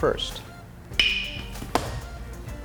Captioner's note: crack